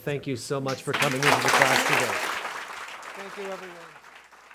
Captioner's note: audience claps